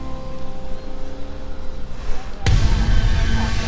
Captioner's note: dramatic music; vehicle engine revving